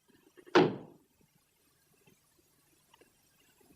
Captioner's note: stamps floor